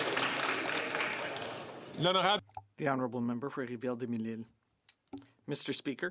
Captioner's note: some Applause